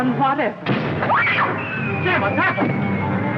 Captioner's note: screams